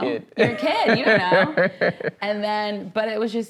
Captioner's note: laughs